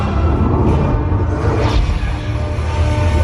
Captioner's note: upbeat dramatic music; lightning sound effects